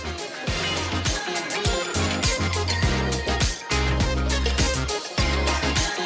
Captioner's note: # upbeat music #; background chatter